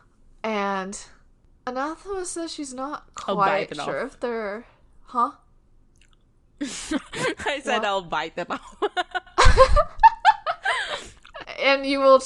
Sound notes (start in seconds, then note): 6.6 laughs; 8.7 both laughing